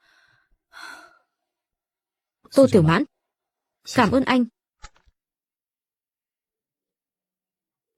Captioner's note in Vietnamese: thở dài